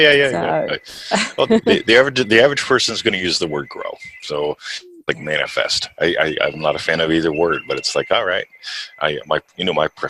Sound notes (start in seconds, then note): 1.1 laughs